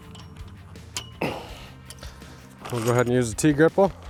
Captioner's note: groans